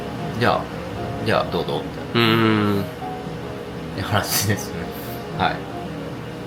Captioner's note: laugh